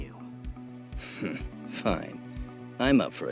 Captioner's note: scoff